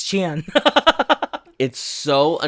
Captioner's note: laughs